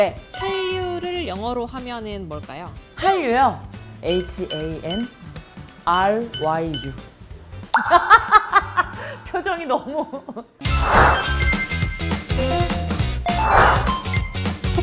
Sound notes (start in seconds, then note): 8.0 ahahaha